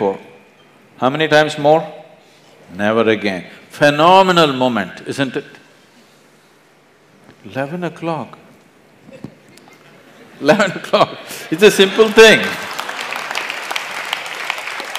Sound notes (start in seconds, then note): 7.5 laughter; 10.1 笑聲